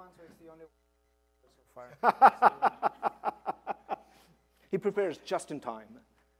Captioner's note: laughter